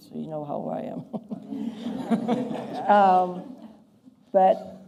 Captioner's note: laughter